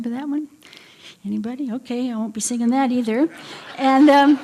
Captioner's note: laughter